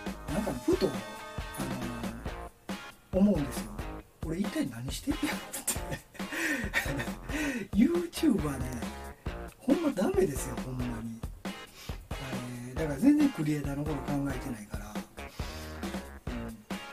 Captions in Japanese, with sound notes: なんかふと思うんですよ。 俺一体何してんねやろ思って（笑い） YouTubeはねぇ、本当ダメですよ。本当に・・ だからぜんぜんクリエイターの事考えて無いから。